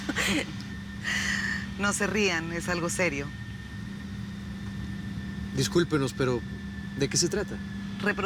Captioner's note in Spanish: Risas